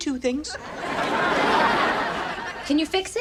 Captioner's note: audience laughs